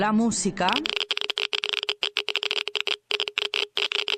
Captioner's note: radiation Meter Crackles